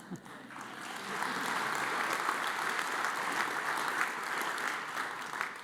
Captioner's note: audience applauds